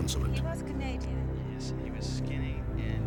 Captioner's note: on phone